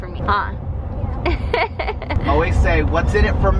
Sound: laughing

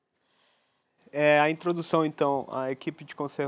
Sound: non-english speech

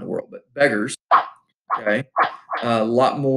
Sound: sword swipe effects

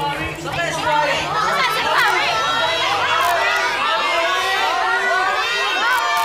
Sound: crowd

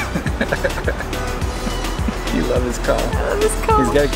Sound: laughs

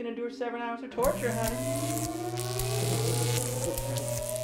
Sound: electric waves

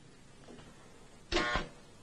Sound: machine beeping

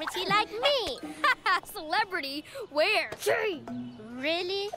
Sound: laughing

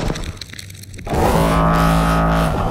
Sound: loud alienlike echo

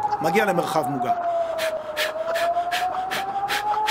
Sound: adrenalin clearing breathing

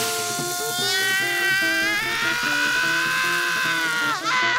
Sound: groaning; screaming; sobbing

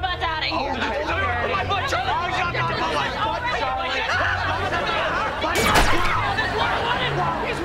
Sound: arguing

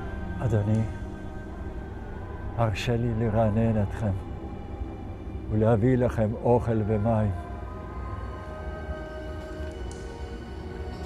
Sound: speaking in Hebrew

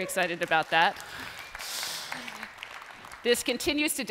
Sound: applause

